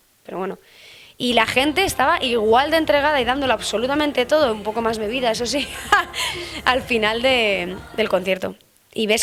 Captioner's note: laughs